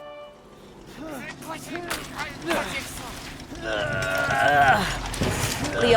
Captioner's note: leo and gabe grunting